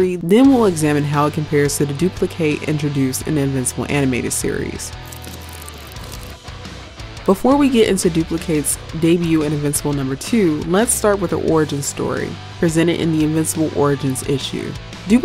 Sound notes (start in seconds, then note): 4.6 upbeat rock music; 5.0 pages whooshing